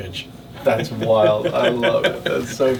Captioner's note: laughs